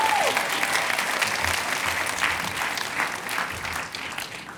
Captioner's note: cheers and applause